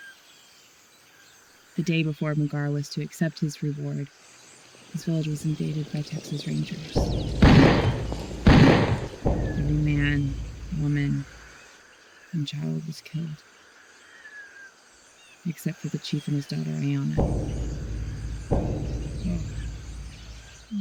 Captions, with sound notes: The day before Muguara was to accept his reward his village was invaded by Texas Rangers. (Gunshots Ringing) Every man, woman and child was killed... Except for the chief and his daughter, Aiyana. (Drum Beating) Wow.